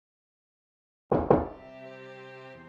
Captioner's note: knock knock